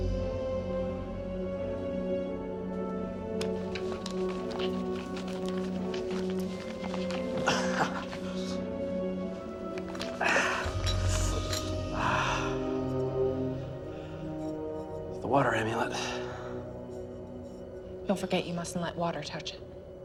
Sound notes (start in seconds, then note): 7.2 chuckles softly; 9.7 sighs